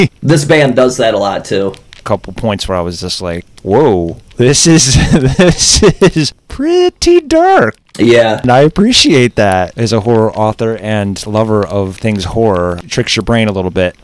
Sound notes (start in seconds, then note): 4.8 laughs